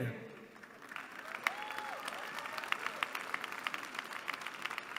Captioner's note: applause